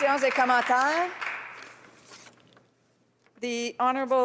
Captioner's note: some applause